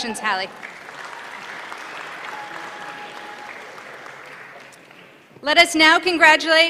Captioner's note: applause